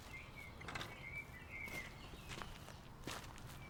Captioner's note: birds chirping